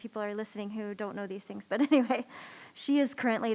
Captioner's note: laughs